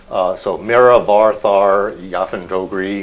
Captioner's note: non-english speech